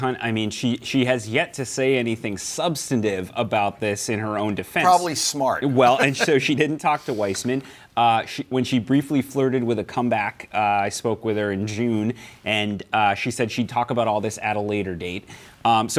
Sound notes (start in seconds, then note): 4.8 laughs